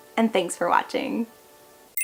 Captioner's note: chime